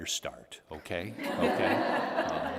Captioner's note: laughter